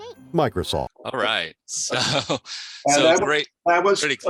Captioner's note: laughs